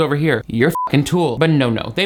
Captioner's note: beep